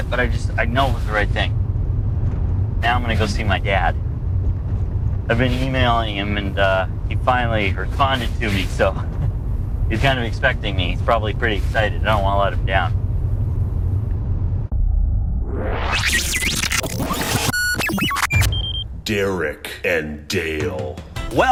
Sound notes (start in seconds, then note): 15.3 electronic warbling, beeping